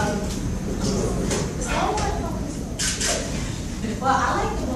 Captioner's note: audience chatter